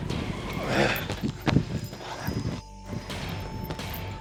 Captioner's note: upbeat music; Sheamus grunts